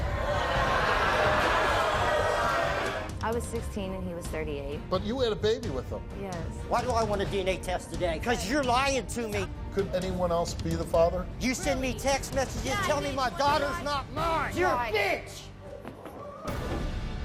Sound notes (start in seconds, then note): 0.0 audience jeers